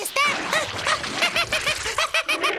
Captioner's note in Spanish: se ríe; el elefante barrita